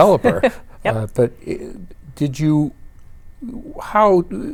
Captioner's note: laughs